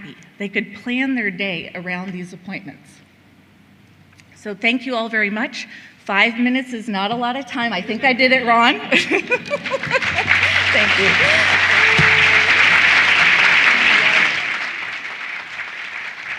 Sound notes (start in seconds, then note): 12.5 applause